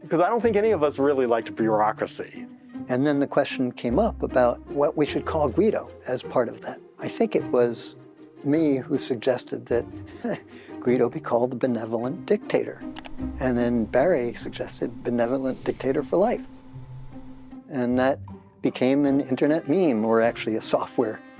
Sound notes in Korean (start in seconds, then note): 10.2 웃음; 12.9 클릭 소리